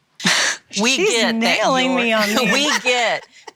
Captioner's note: laughs